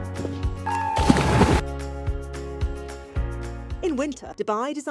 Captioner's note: water splashes; people screaming